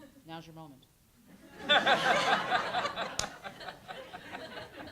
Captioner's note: audience laughs